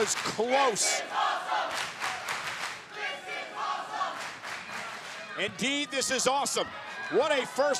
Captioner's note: applause